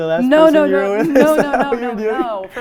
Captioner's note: laughs